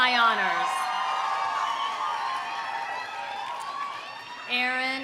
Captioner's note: audience cheering; audience applauding